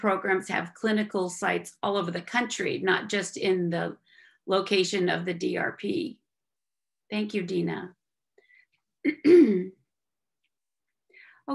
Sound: clearing throat

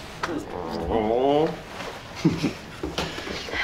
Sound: growls

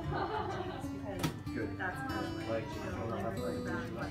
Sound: whispers

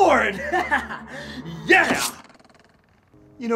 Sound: chuckles

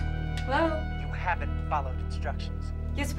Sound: on phone

